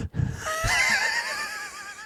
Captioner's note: laughing